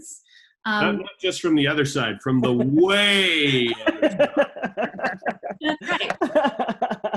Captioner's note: laughs